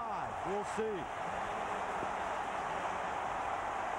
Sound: cheering, applause

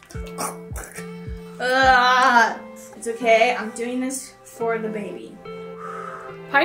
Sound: gags

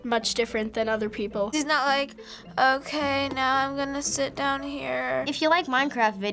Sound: flatly

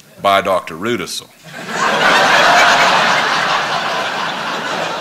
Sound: laughter

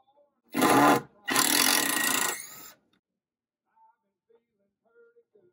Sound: electric drill sound

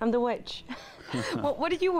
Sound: Charlie and Katharine chuckle

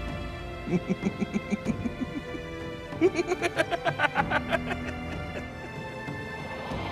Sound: evil Laugh

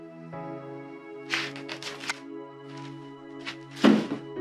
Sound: none

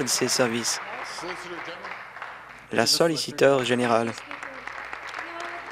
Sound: applause

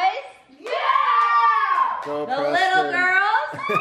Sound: boys cheering

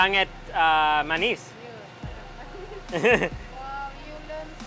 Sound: speaking in foreign language

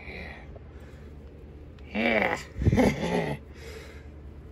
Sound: Caprice giggles

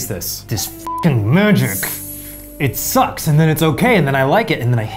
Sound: beep

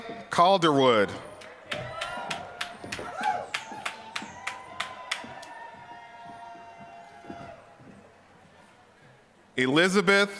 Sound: applause

